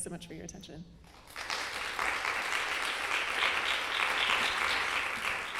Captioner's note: audience applauding